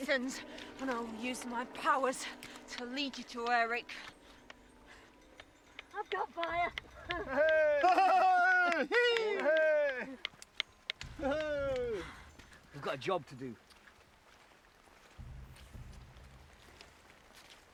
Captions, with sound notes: and I'll use my powers to lead you to Eric. - I've got fire! (men laugh) - We've got a job to do. (dramatic music)